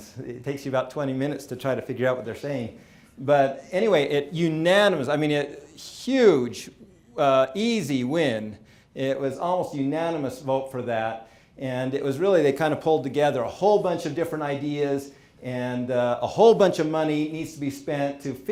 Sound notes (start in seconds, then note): none